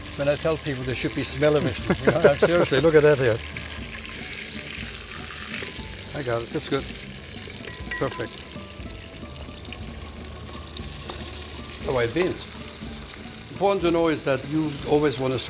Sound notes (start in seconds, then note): 4.4 both laugh